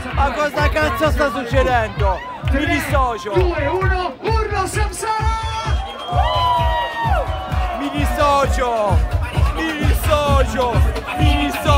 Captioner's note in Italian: Applauso; Applauso